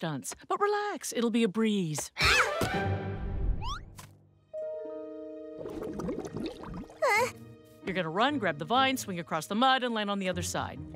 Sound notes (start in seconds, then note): 4.4 tense music; 6.9 whimpers